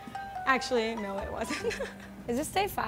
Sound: laughs

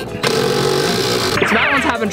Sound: drilling sound

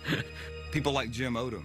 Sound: laughs

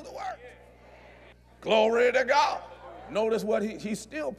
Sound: audience Agrees

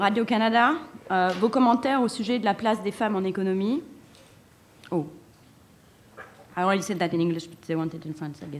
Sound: speaking french

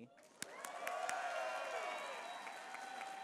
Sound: applause

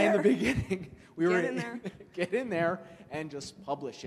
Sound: laughs

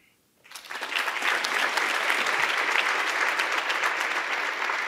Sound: audience applauding

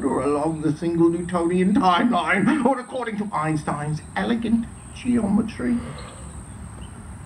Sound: audible yawn

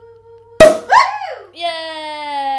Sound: bottle popping

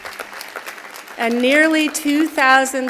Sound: applause

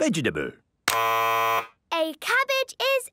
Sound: buzzes

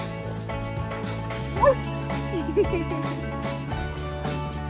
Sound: dog barks

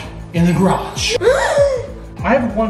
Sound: dramatic gasps

